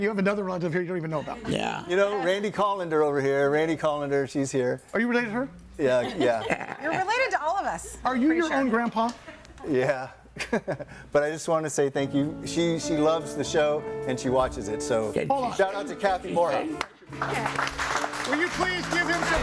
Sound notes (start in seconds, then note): 10.3 chuckles; 16.7 audience applauding